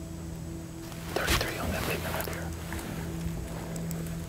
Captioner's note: whispering